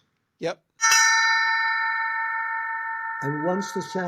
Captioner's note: gong chimes